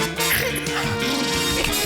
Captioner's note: blubbers lips; snorts